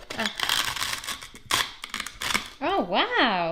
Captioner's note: crunching